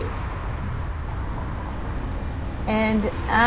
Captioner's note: traffic noise